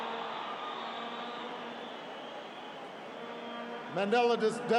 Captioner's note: applause